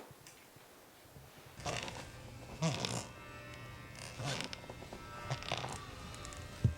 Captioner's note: footsteps squeaking